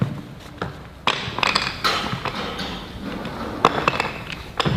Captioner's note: door opens